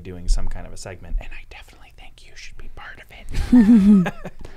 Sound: laughing

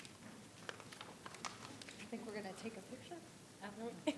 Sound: paper rustling

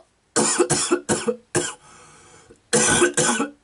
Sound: coughing gross

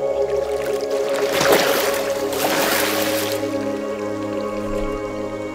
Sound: sound of diving in water

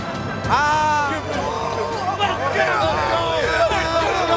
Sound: player yelling

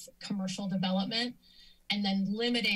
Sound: inhales

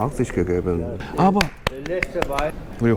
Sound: applause

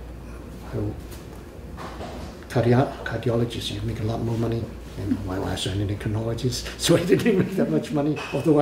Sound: laughs

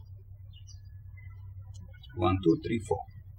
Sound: birds chirping

